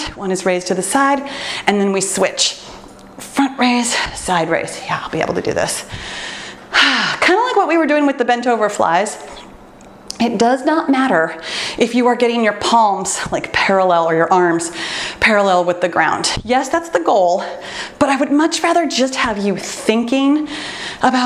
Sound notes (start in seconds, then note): 5.9 exhales deeply